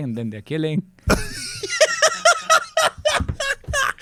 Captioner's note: laughs